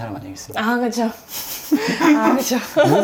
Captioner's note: laughing